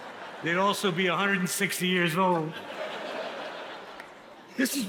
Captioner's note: audience laughs